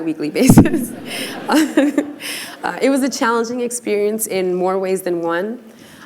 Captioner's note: laughter